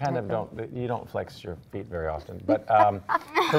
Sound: light laughing

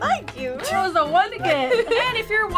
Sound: chuckles

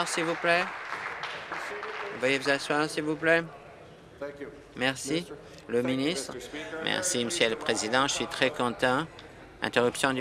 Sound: applause

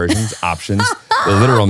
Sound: laughing

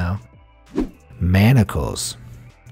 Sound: air whooshing

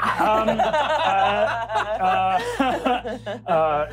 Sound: laughing

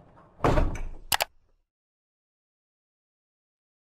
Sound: banging; clicking

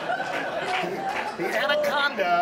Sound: audience laughs

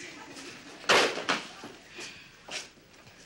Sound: Molly sighs

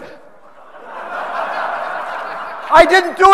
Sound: audience laughing

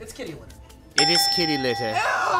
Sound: bell ringing

